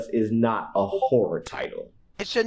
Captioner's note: Discord ping